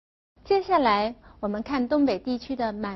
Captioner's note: Korean